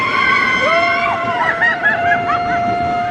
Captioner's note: screaming